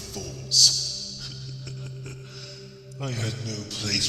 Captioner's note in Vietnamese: tiếng cười nham hiểm